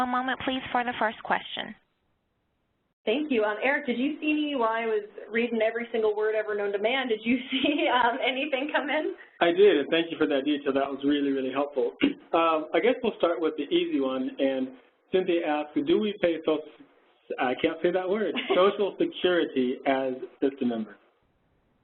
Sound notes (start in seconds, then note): 16.7 stutters